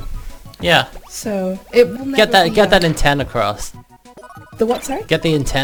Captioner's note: stutters